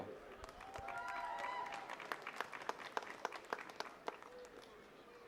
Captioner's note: attendees cheering and clapping